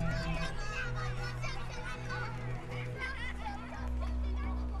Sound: children playing

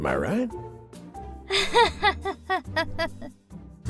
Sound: nervous laughter

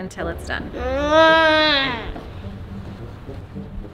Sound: groans

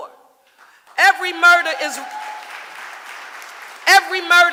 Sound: audience applauding

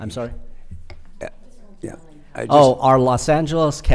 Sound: board member faintly speaking

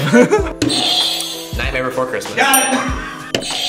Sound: both laugh; buzzer rings

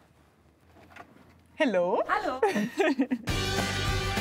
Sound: laughing; rock music

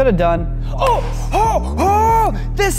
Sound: excited noises

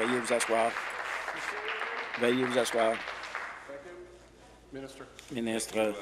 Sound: applause

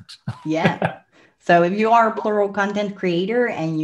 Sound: laughs

